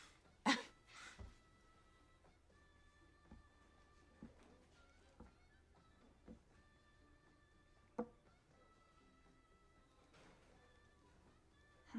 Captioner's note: Alexis nervously laughs